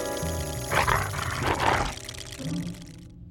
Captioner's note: growls